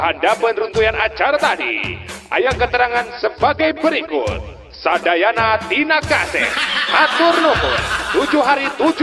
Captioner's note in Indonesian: tertawa